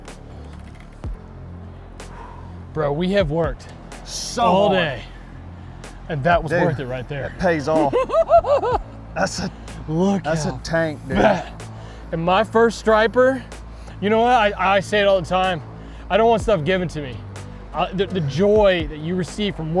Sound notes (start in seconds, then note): 0.2 suspenseful music continues; 7.2 laughs